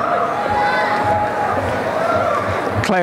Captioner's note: applause and cheering